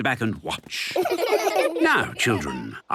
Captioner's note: laughter